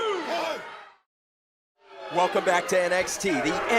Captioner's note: crowd cheering